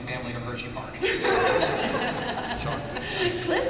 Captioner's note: laughter